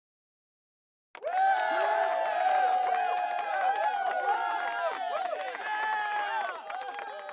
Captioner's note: crowd cheering and applauding